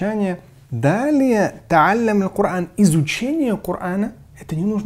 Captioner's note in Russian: говорит на арабском